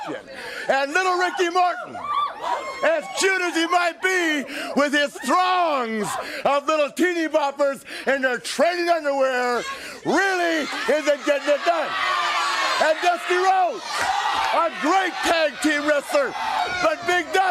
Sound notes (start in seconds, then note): 13.1 crowd cheering